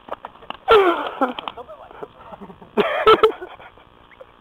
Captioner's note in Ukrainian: сміх